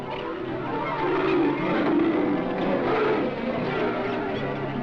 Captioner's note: leopard roars